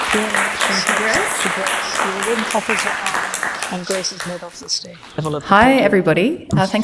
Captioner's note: applause